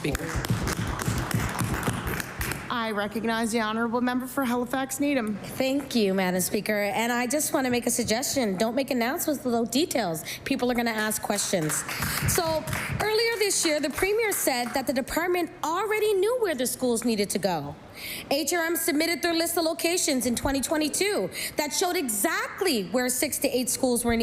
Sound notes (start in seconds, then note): 15.2 some Applause